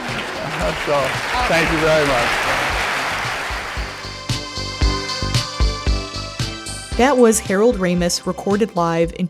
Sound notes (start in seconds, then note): 4.2 audience applause; 6.9 theme music plays